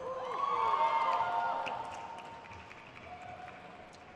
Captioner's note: crowd cheers